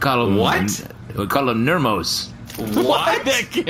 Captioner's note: shouting